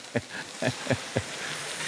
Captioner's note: laughs